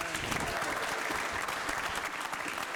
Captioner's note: all applauding